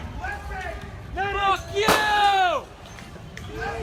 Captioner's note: confused shouting